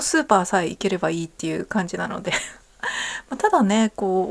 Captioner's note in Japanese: 笑い